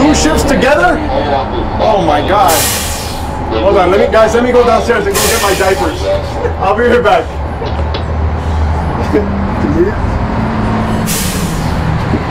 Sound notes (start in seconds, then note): 6.0 laughs